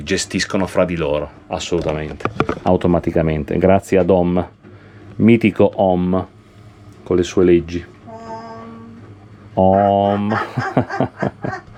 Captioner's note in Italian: risate